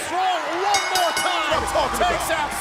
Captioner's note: bell ringing